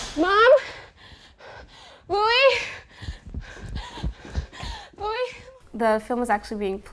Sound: heavy Breathing

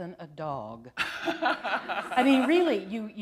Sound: laughter

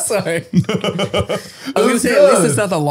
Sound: laughing

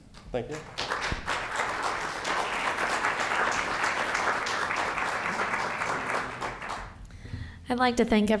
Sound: applause

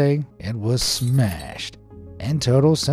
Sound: glass splintering

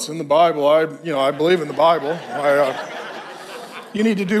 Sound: congregation laughs

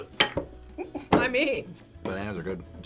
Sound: laughs

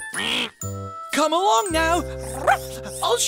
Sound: bark

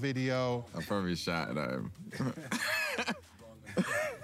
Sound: laughing

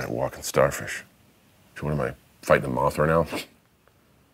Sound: scoffs

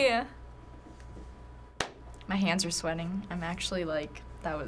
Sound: claps

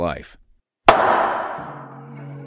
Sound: hammer thingy slams

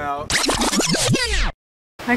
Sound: rewind sound effect

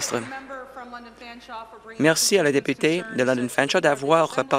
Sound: applause

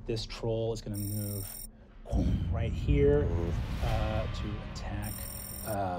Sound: booming

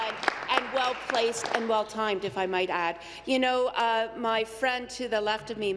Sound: applause

